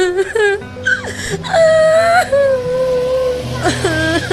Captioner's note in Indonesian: menangis